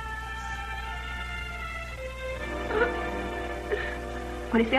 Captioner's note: sobs